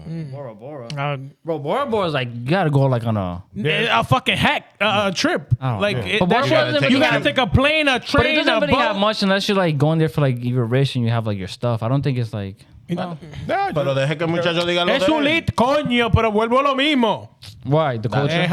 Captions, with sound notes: Bora Bora is like, you gotta go on a fucking heck trip. Oh. You gotta take a plane, a train above. But it doesn't have much, unless you're going there for your race and you have your stuff. I don't think it's like-- (Speaking Foreign Language) Why, the culture?